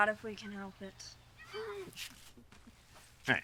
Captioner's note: Jacob laughs